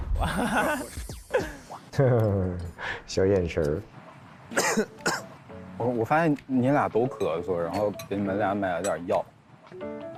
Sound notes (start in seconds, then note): 4.5 coughs